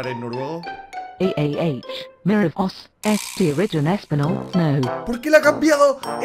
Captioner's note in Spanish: en otro acento